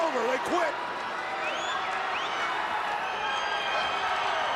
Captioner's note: crowd yelling